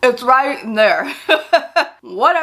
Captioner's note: chuckling